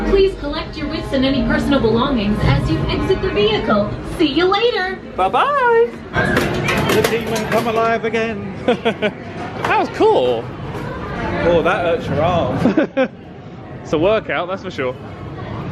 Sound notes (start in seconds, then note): 8.6 laughs; 12.6 laughs